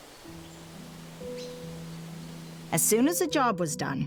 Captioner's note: wind rustling; gentle music